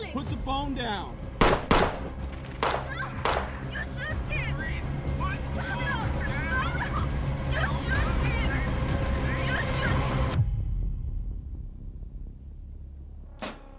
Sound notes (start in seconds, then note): 1.4 gunshots